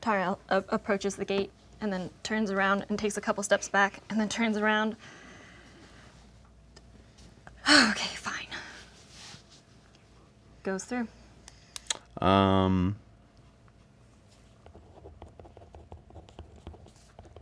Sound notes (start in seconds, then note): 6.6 sighs